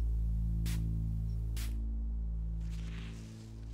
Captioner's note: liquid spraying